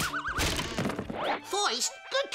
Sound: playful music; Elmer thuds

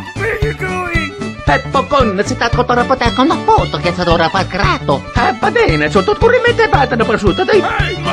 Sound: italian speak

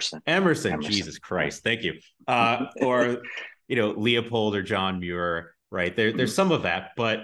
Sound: laughs

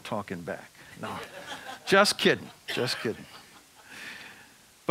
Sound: audience laughing

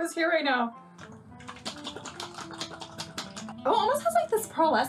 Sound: liquid shaking

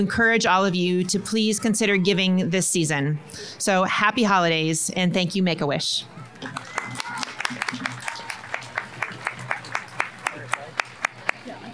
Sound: applause

